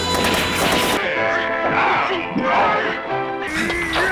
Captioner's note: both grunting